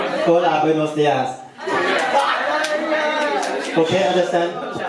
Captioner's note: laughing